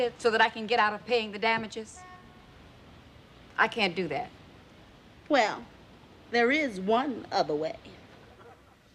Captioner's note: none